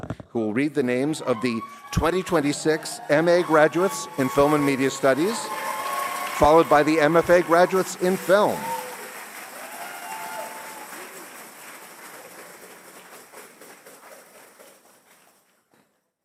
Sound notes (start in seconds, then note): 8.6 cheers and applause